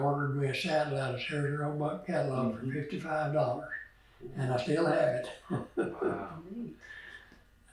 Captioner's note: laughs